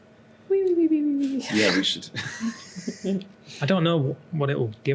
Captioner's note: cartoon snoring